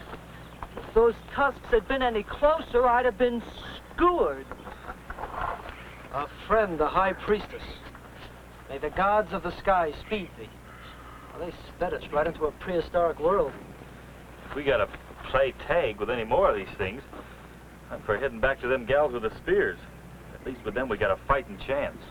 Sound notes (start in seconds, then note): 4.7 Steve laughs